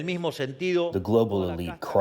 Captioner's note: through translator